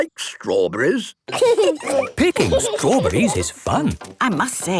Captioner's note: laughing